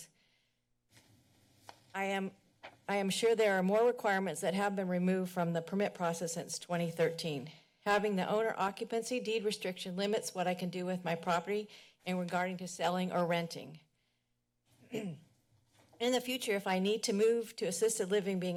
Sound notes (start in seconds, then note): 0.1 pause; 13.8 pause; 14.8 clears throat